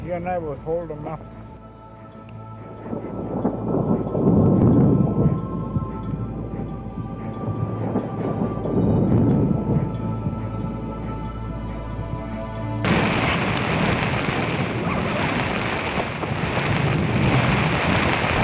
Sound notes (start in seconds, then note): 2.8 thunder rumbling